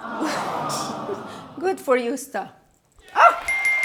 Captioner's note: laughs; bell rings